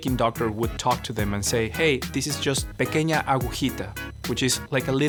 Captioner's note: speaking in Spanish